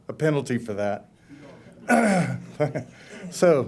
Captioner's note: laughter